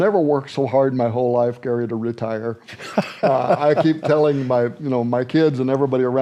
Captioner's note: laughs